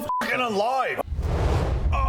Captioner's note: whoosh